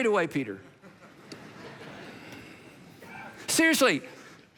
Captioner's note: congregation laughs